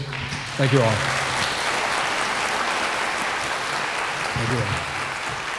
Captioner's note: audience applauding